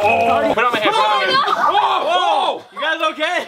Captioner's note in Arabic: هتافات